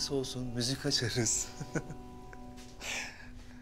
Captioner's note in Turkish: Gülüyor